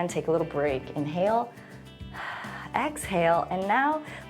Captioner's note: inhales and exhales